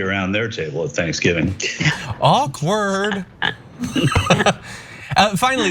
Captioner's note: laugh